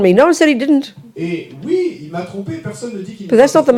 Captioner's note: audience member speaks in French